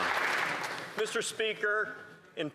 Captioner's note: some Applause